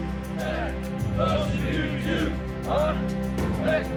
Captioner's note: chanting